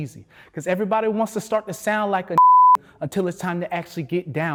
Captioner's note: beep